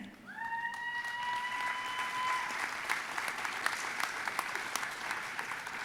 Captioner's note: audience applauding and cheering